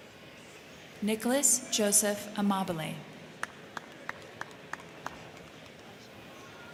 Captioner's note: crowd cheering